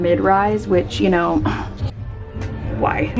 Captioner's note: scoffs